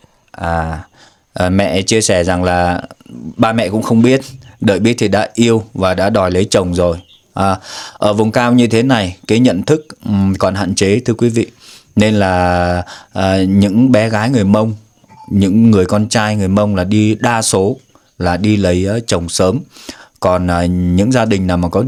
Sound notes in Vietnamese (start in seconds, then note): 11.5 khịt mũi